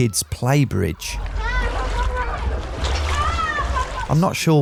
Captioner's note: children chattering; water splashing